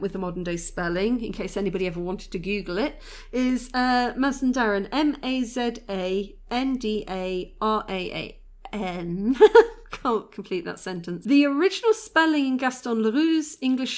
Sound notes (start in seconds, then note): 9.3 laughing